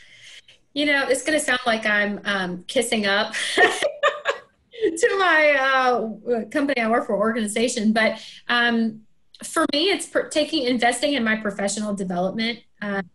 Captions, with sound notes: - You know, it's gonna sound like I'm kissing up-- (girls laughing) to my company I work for or organization but for me it's investing in my professional development